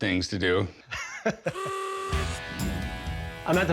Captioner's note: chuckles; horn honks